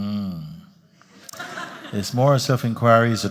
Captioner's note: laughter